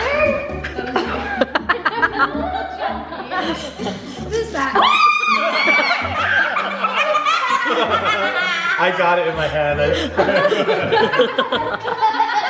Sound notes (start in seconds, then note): 4.7 screaming; 6.0 laughing